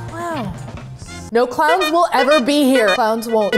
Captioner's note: honk; honking